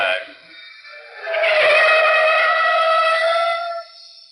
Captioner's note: tires squealing